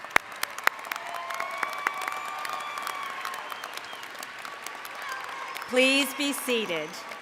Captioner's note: applause